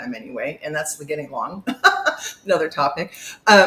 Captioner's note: laughs